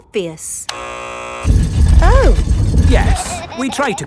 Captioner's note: buzzer sounds